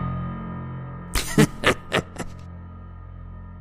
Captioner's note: sardonic laughter